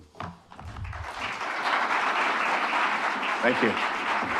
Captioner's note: audience applauding